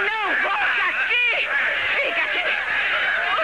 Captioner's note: all Shouting